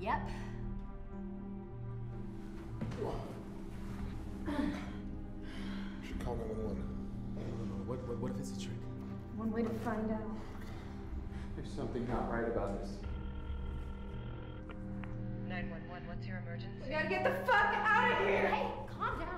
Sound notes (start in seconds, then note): 13.0 ringing